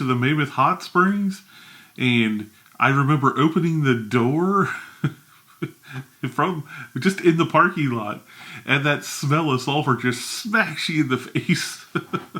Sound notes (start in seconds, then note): 4.4 chuckles; 11.3 chuckles